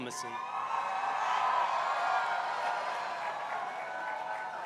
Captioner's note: crowd cheering